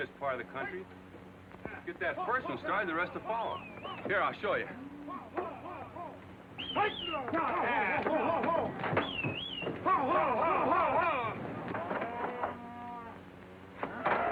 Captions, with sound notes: in this part of the country. Get that first one started, the rest'll follow. Here, I'll show ya. (men yelling) (cattle lowing) (men whistling)